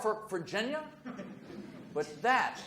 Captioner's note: audience murmurs